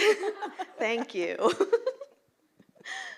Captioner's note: chuckles